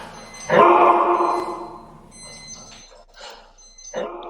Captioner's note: dog barking